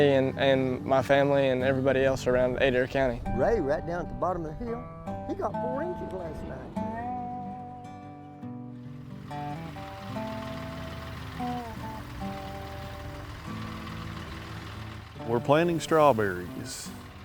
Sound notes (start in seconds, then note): 4.0 instrumental music; 9.0 machine revs